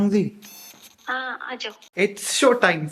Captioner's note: on phone